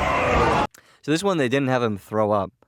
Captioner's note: none